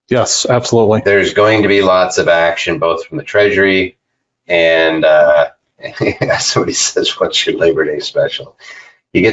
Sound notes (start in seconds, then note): 5.8 laughs